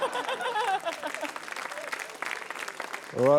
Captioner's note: applause